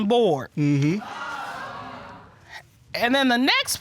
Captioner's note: audience exclaiming